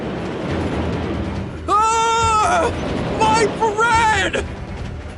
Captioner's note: Zaid screams; Logan screams